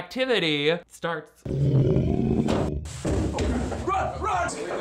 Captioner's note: trash can growling